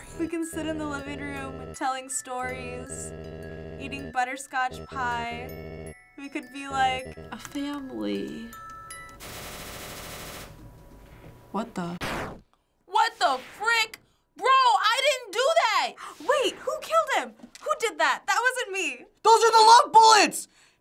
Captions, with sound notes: - "We can sit in the living room, telling stories, eating butterscotch pie. We could be like..." - "...a family." What the--? - What the frick?! Bro, I didn't do that! - (gasping) Wait, who killed him? Who did that? That wasn't me. - Those are the LOVE bullets!